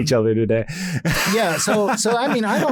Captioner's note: laughs